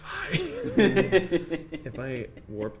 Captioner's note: laughing